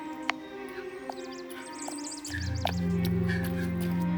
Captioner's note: dramatic music; birds chirping; gentle upbeat music